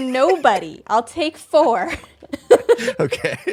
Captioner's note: laughs